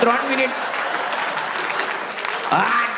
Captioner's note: crowd applauding